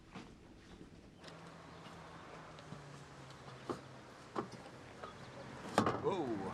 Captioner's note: birds chirping; engine rumbling